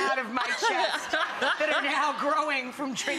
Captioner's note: Ross laughing